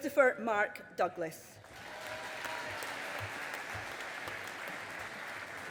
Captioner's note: audience applauding